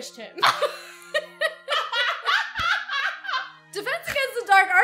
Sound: both laugh

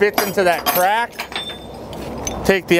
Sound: metal clanking

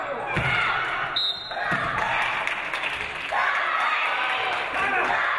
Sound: referee blows whistle

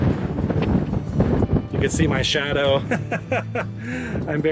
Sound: laughs

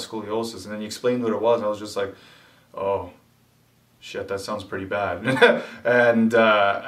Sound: laughs

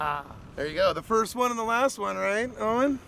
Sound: chuckling

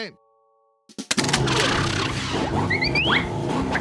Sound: engine starting

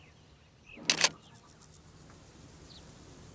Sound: camera clicks

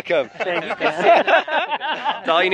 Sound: laughing

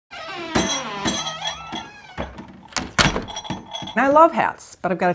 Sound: door creaking; key chain rattling

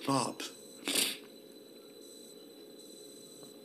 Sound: sniffs

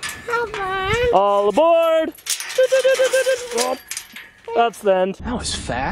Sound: mimics train

